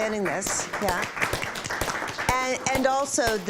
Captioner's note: applause